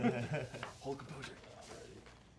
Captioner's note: laughs